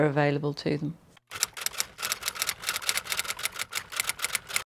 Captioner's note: typewriter clicking